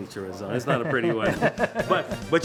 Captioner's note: laughs